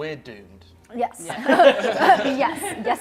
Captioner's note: laughter